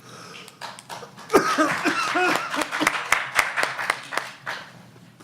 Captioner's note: applause